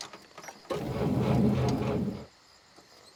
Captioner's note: engine revving